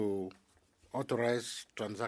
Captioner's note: speaking French